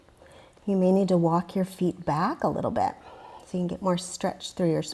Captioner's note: deep breathing sounds